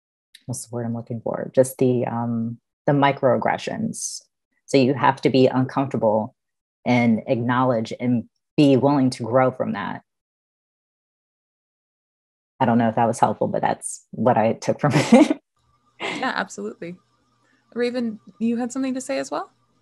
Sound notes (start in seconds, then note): 16.0 laughing